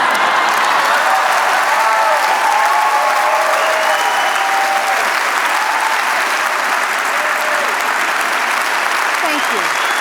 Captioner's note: laughter, cheers